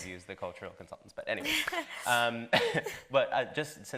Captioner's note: laughs